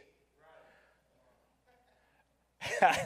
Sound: crowd; laughs

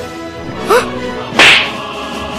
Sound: gasps in joy

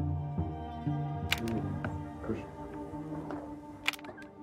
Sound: camera snapping

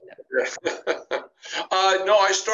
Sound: laughs

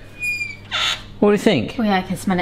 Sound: door creaking

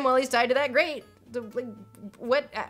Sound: Lindsay stutters

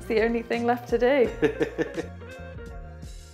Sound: laughing

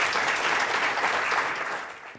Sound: audience applauding

